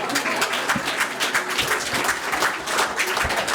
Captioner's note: clapping